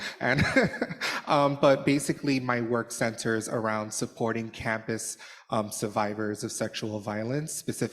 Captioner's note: laughter